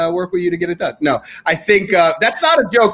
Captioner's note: laughing